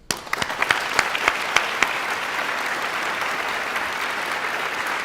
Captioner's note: guests applauding